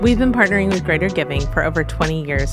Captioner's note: laughing